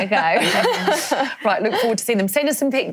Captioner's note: laughs